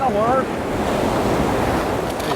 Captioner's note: rushing water